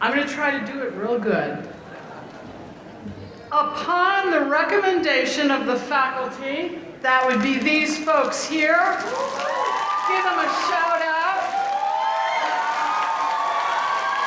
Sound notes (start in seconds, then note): 9.0 applause; 11.5 applause; 14.0 audience cheering